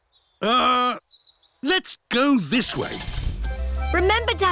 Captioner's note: starts engine